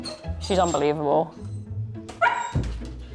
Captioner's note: playful music; Betsy whining